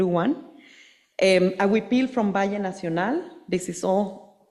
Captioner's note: speaking Spanish